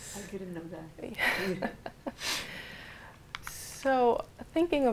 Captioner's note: chuckles